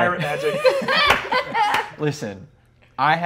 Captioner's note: laughing